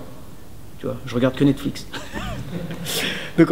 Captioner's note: giggles